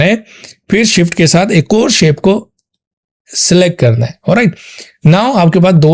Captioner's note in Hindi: नाक से की जाने वाली आवाज़